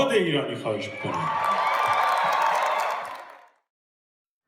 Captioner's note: claps